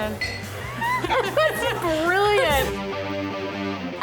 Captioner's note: both laugh